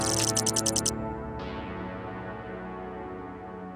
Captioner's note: text chirping